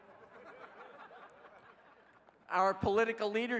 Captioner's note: laughing